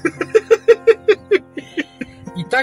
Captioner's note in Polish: śmiech